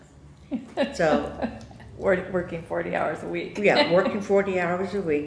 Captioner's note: laughs